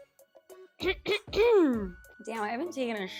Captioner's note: hip music; clears throat